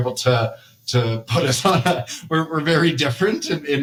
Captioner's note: laughter